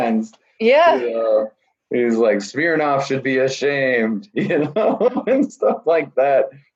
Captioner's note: laughs